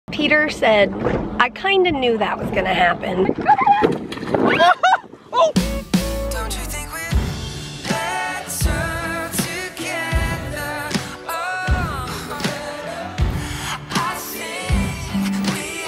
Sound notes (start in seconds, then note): 5.3 screams